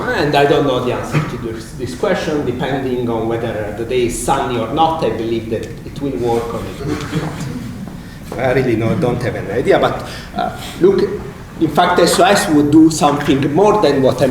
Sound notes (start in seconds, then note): 6.7 laughter